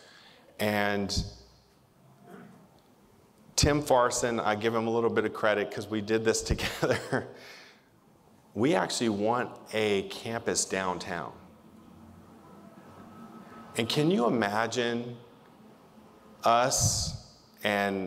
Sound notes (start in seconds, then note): 6.6 laughter